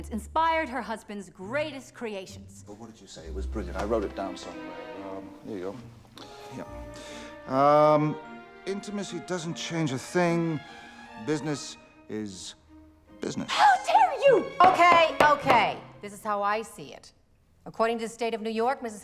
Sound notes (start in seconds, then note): 14.5 abramovitz pounding gavel